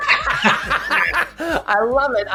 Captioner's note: all laughing